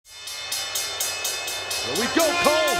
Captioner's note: crowd booing